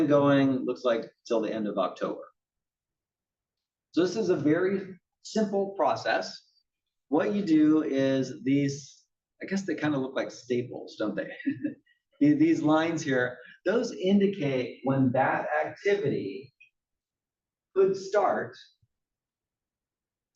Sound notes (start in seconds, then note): 11.2 laugh